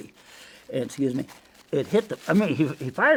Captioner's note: paper crinkling